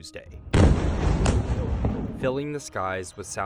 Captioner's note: explosion booming